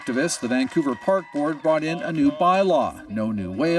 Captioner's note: applause